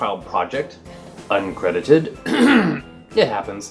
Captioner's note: clears throat